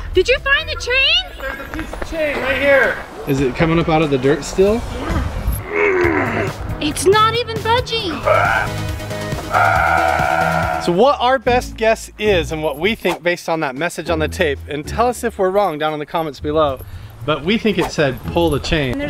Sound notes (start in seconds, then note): 4.9 grunting; 9.4 grunting